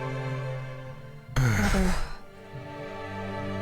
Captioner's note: deep sigh